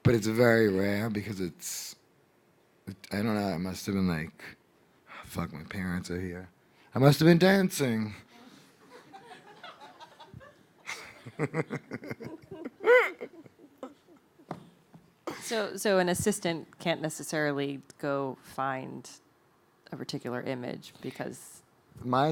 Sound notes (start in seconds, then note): 8.4 audience laughing